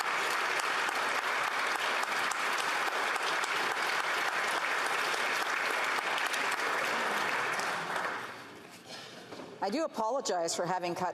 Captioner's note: some Applause